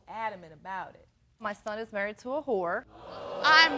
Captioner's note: audience gasps